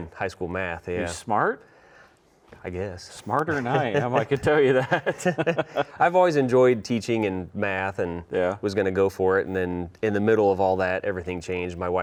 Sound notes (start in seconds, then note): 5.3 both laugh